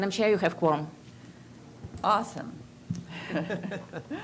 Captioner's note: laughter